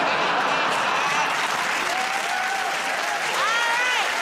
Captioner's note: cheers and applause